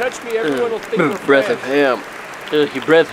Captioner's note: cough